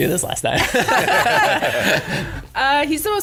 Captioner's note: everyone laughs